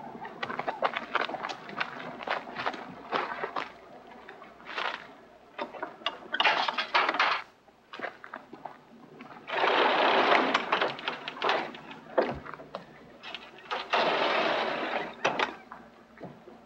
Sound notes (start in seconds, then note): 0.4 footsteps on gravel; 6.3 opening gate